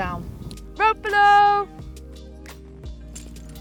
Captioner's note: shouts